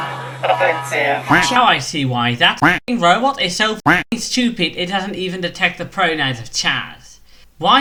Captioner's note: quack